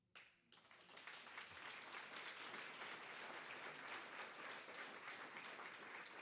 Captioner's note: applause